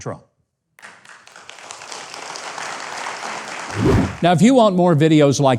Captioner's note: crowd applauds